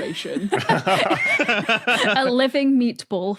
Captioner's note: group laughing